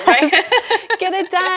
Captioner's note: laughing